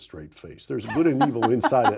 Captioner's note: Rana laughs